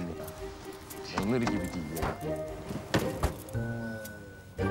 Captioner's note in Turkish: Bagaj kapağı kapanma sesi